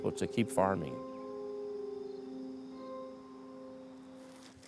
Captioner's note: crickets chirping